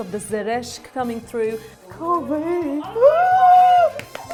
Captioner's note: exclaims